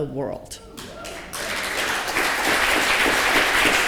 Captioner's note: applause